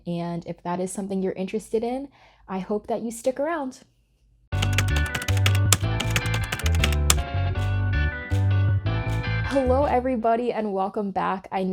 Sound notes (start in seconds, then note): 4.5 keyboard clacking; 4.6 upbeat music